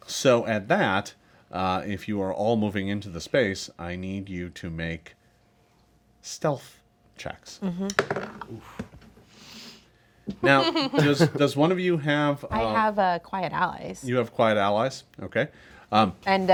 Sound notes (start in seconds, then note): 7.8 dice roll; 10.4 group laughs